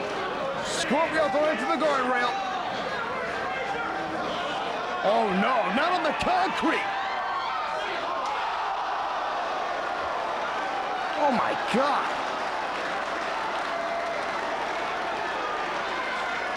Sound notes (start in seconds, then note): 8.3 audience gasping